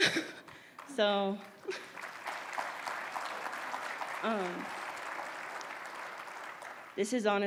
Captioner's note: applause